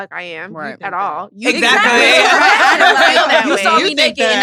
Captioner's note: laughs